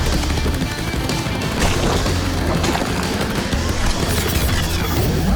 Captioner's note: squelching